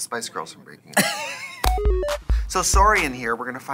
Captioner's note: Katya laughs